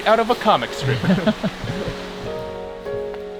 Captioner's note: both laugh